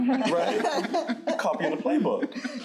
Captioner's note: crowd laughing